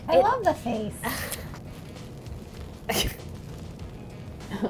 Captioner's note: laughing